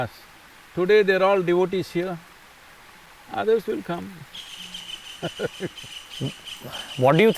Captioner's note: laughs